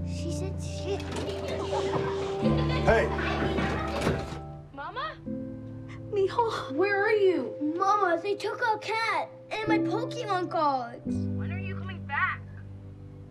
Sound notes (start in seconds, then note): 0.2 children laughing